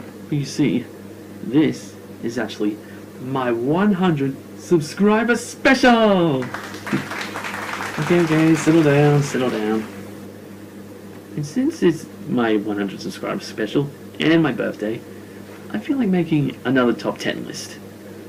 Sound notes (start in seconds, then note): 6.3 applause